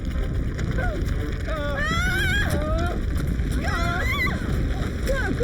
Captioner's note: Larry and Paige screaming